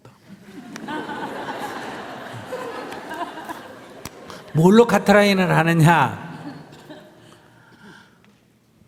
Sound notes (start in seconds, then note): 0.4 audience Laughter